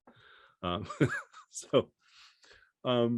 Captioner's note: chuckles